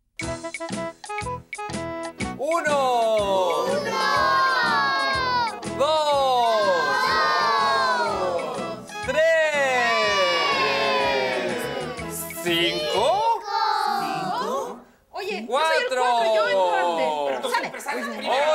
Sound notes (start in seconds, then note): 0.2 happy music starts playing; 3.7 children offscreen; 9.9 children offscreen; 12.9 children offscreen